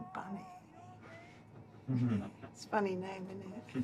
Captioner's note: laughing